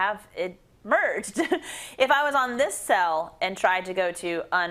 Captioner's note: laugh